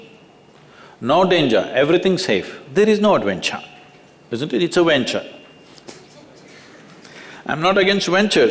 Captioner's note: laughs